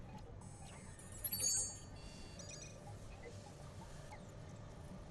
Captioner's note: soft chime